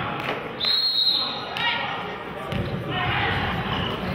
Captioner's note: whistle blows